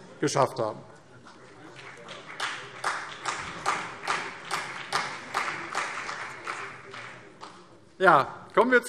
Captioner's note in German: Beifall CDU und BÜNDNIS 90/DIE GRÜNEN